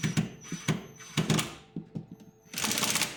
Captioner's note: drill whirring